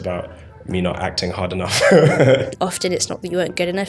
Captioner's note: laughs